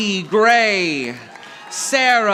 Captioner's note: audience applauding